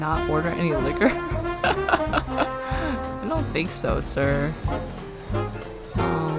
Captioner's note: laughs